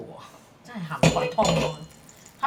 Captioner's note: Cantonese